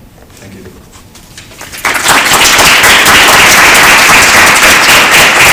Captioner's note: applause